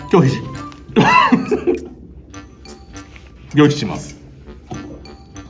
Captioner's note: laughs, coughs